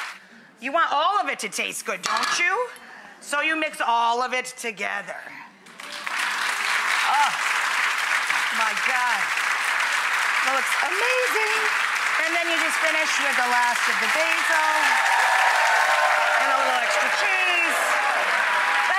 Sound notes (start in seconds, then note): 5.8 audience clapping; 14.8 audience cheering